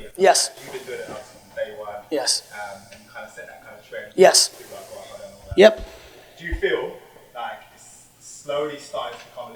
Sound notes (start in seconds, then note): 5.9 murmurs